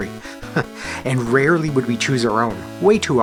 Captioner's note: chuckles